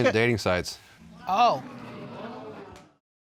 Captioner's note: audience gasp